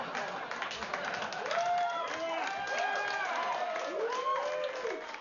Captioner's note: vítores y aplausos